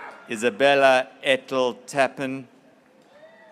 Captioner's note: graduates cheering